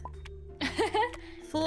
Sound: laughs

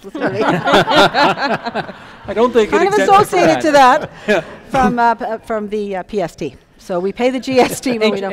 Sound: laughter

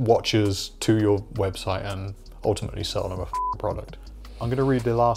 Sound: beep

